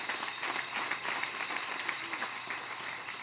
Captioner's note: applause